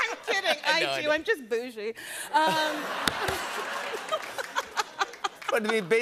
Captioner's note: laughter